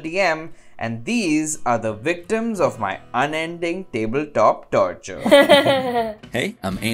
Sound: laughter

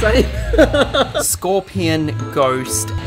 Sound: laughing

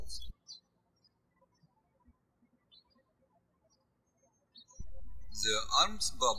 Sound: birds chirping

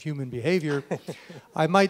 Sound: laughs

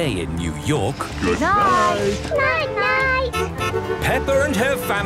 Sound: honking

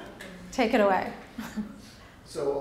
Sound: chuckles

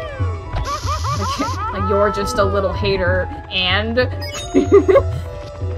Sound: laughs

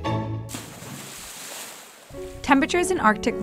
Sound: water splashes

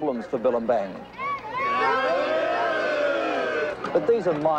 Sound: tourists jeering

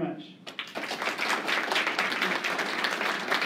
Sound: applause

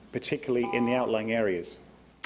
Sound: beep

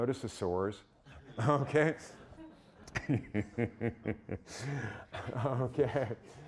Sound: all laughing

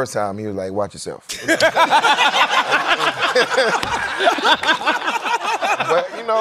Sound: laughter

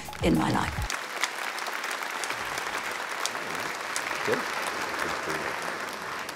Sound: audience clapping

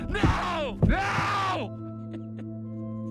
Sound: sobbing

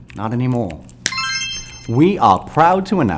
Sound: snap

